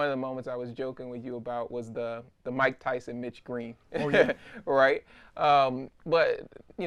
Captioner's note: Dapper Dan laughs